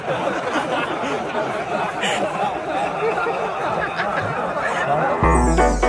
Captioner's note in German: kollektives Lachen